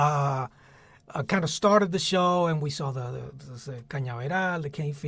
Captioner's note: spanish